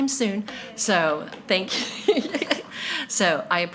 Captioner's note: laughing